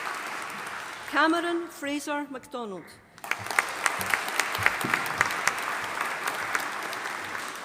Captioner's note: audience applauding